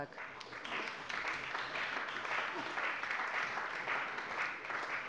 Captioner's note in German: Allgemeiner Beifall